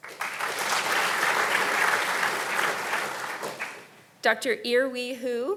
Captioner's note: audience applauding